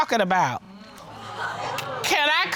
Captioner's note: audience gasping